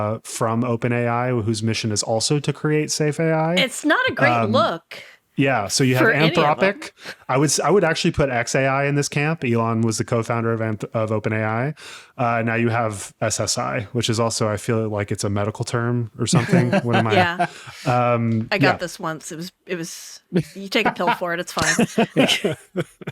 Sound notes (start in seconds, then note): 16.2 laughing; 21.5 laughing